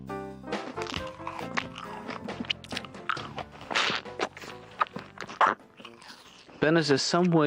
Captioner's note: loud crunching and slurping